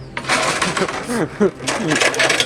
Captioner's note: laughing